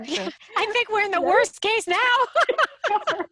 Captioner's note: laughs